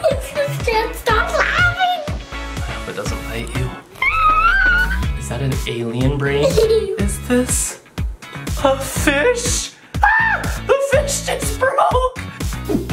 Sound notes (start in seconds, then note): 10.0 screams